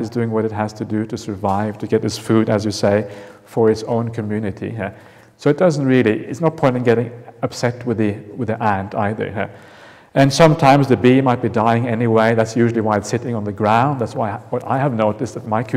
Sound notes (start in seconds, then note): none